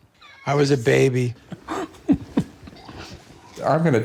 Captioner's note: laughter